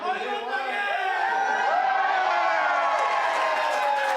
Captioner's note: crowd cheering; Morimoto cheering; crowd clapping